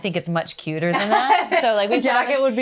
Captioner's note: laughs